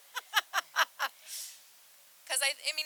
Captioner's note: laughs